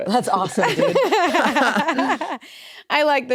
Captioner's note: laugh